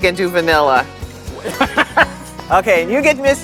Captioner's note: laughs